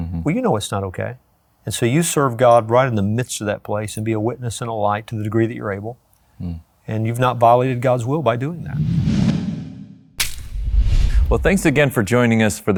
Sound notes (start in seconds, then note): 8.6 logo whooshes; 10.0 metal clacks